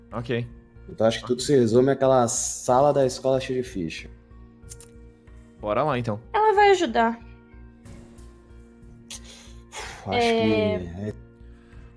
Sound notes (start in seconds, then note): 9.1 sigh